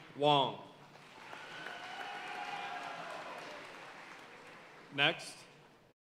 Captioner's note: audience cheering and applauding